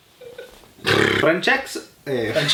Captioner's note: sgrunt